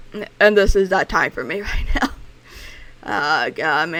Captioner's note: laughing